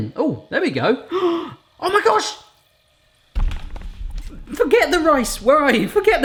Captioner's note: gasping